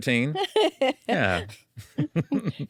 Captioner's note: laughs